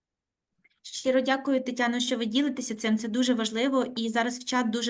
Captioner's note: speaking Ukrainian